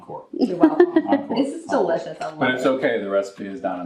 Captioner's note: laughs